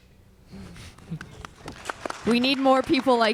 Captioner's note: audience clapping